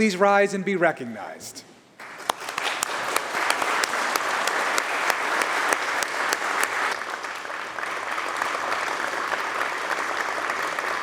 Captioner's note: applause